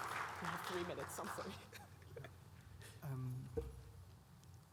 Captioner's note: audience clapping